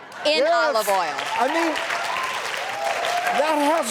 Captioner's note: audience cheering